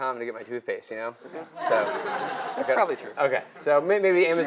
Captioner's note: laugh